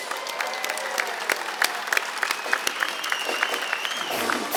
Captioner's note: audience cheering